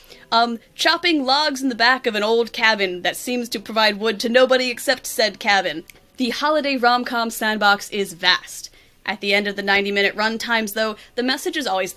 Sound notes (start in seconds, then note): none